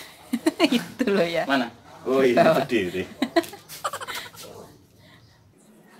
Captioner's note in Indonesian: tertawa